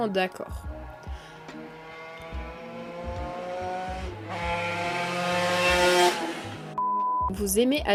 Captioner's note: motorcycle noises